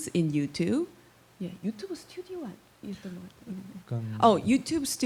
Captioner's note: speaking korean